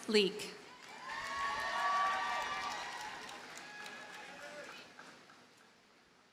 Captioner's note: audience cheers and applauds